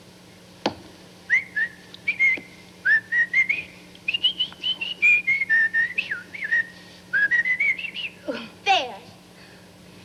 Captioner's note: whistling